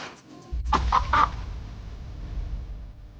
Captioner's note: cacareo de pájaro; música dramática